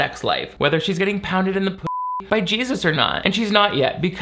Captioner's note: beep